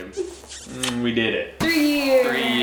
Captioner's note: lips smooching